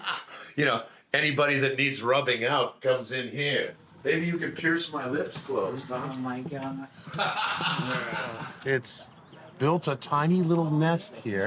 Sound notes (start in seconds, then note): 7.0 laughing